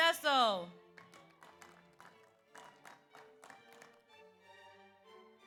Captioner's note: audience applauds